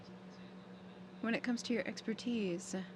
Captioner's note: speaking French